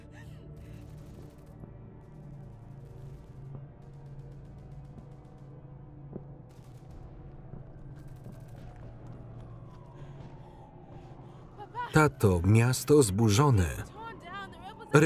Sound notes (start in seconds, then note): 0.0 ominous music; 0.8 guns firing in distance; 10.2 sirens wailing